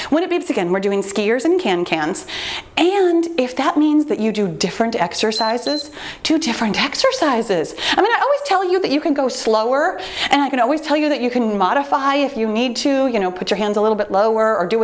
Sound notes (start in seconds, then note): 5.2 timer beeps